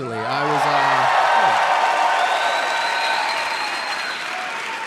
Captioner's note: audience cheering